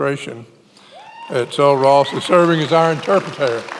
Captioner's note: many applauding